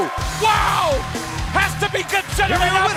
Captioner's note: bell ringing